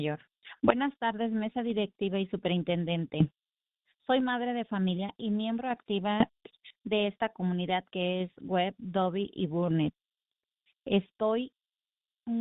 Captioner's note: speaking spanish